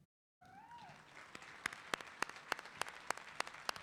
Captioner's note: clapping